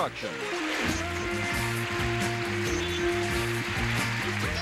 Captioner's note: applause